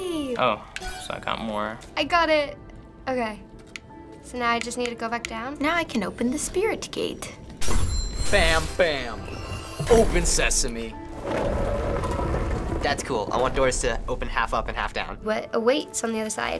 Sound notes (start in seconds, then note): 7.6 in game: chime; 11.0 stones scrape each other